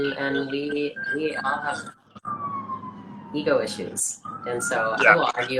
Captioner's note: siren blares